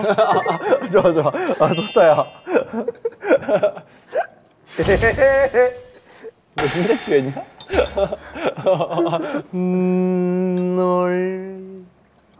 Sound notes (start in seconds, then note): 0.0 haha